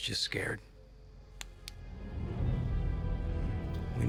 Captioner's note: flashlight clicks